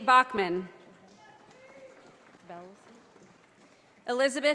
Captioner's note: audience applauding